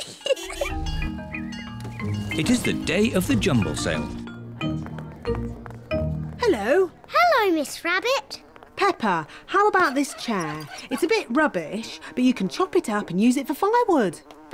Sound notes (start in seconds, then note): 0.0 giggles; 9.3 flies buzzing